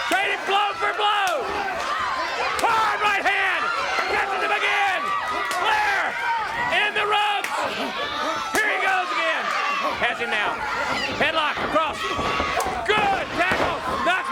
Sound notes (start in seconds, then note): 3.2 crowd cheering